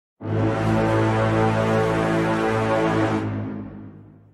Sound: war Horn

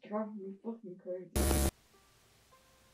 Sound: glitch sound

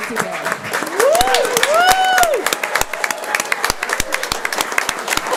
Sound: audience cheers and claps

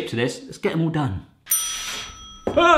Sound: oven timer ringing

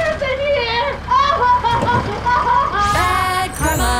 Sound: sobbing

